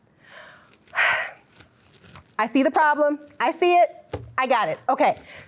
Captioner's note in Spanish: La Sra. Ray suspira